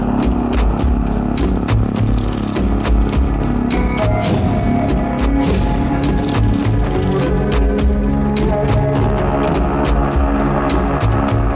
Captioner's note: engine revving